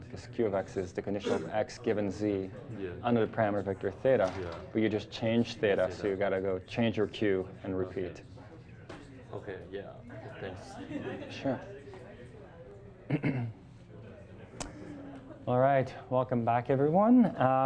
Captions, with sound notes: 'cause q or x is the condition of x, given z, under the parameter of vector theta. But you just changed theta, so you gotta go change your q and repeat. - Okay, yeah, thanks. - Sure. (students chattering) All right, welcome back everyone.